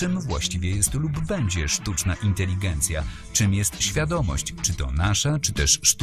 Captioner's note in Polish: głos z animacji, w tle muzyka